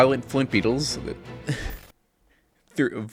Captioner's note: incoherent laughing